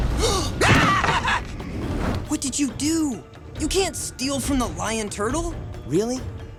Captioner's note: screams